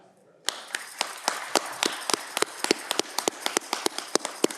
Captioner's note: audience clapping